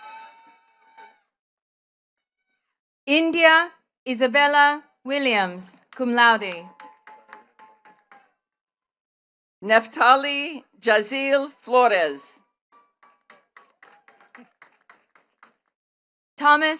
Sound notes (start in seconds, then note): 6.6 attendees cheering and clapping; 12.8 attendees clapping